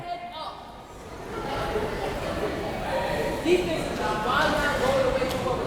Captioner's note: crowd members talking